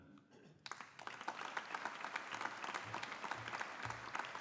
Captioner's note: audience applauding